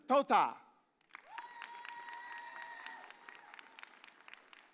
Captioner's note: audience cheers